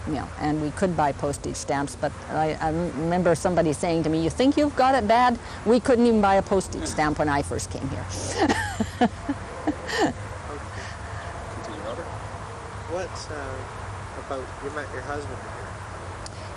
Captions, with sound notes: you know, and we could buy postage stamps, but I remember somebody saying to me, "You think you've got it bad?" We couldn't even buy a postage stamp when I first came here. (laughs) What about - you met your husband here?